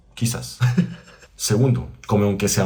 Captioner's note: laught